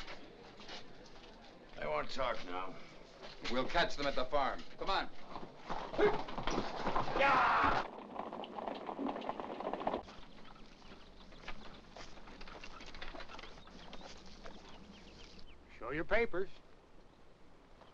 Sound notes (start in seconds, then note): 6.6 yells at horse; 8.0 hooves trotting rapidly; 10.0 birds chirping; 10.0 cart rattles